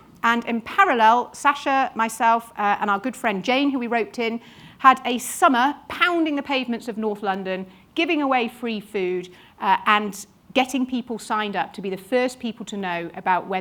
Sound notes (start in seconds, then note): none